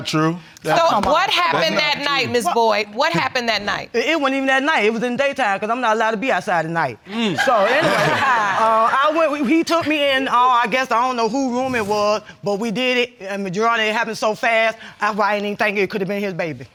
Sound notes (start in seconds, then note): 7.2 laughter